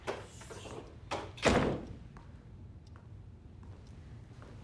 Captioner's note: door clicks